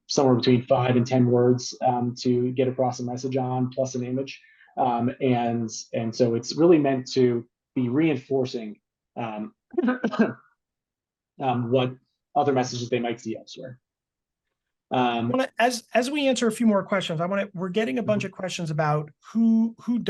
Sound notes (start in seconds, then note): 9.8 coughing